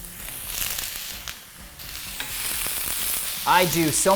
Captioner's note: bell pepper sizzling